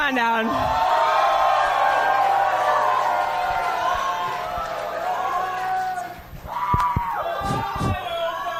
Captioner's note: cheering